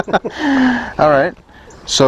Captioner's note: laughs